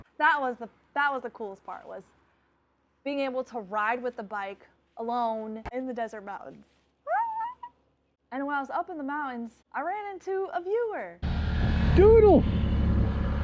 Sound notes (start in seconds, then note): 7.1 shrieks